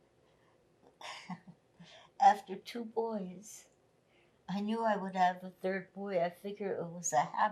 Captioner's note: laughing